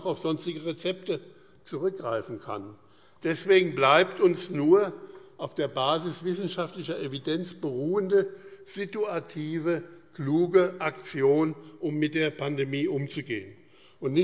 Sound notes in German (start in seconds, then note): none